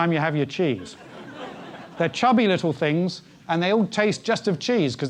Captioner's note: laugh